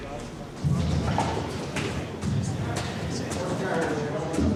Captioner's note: inmates stomping